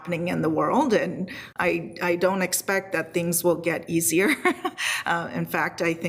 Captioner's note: laughs